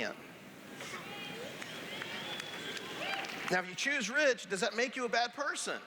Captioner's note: cheers